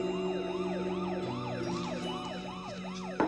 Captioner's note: sirens approaching